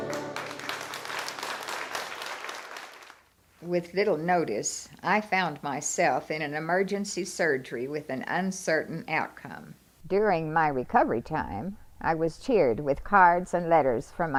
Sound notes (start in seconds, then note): 0.0 applause